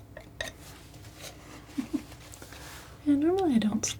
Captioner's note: chuckles